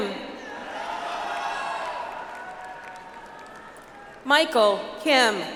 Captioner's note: audience applauds